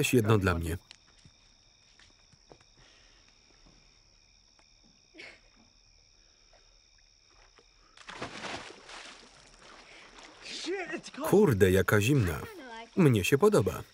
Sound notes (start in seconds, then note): 7.3 water splashing